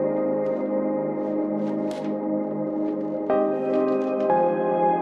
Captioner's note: gentle music continues; paper rustling